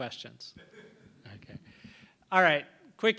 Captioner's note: laughter